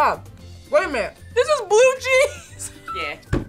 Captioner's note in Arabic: يضحك